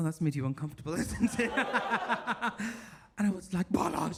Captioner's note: all laugh